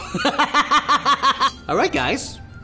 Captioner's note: laughter